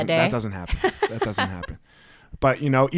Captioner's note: laughs